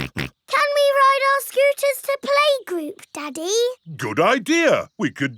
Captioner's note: snorts